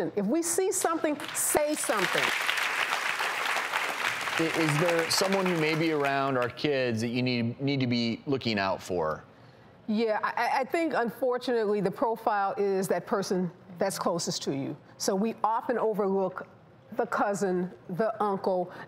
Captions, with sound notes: If we see something, say something. (audience applause) Is there someone you may be around are kids that you need to be looking out for? Yeah, I think, unfortunately, the profile is that person that's closest to you. So we often overlook the cousin, the uncle,